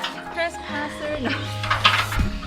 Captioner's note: laughing